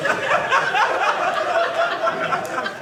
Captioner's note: audience laughing